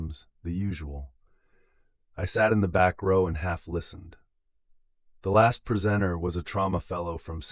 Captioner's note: inhale